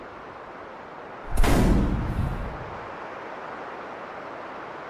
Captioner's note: booming